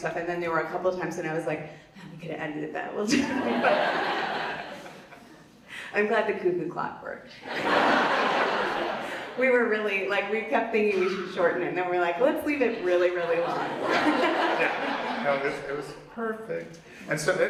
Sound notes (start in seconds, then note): 3.1 Vanessa and audience laugh; 7.4 audience laughs; 12.6 Vanessa and audience laugh